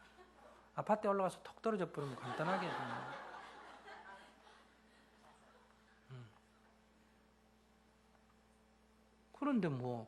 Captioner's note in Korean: 청중 웃음